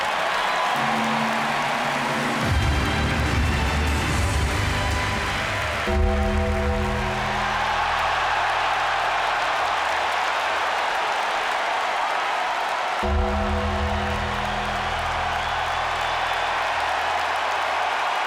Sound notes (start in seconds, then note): 0.6 triumphant orchestra music; 6.2 bell tolls; 6.2 crowd cheers